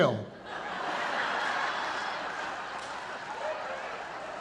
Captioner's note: audience laughing